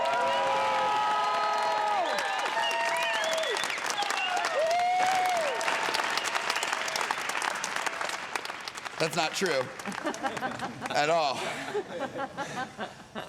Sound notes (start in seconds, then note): 3.0 all cheering, applauding; 12.0 panting